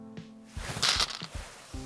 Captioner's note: stones rattling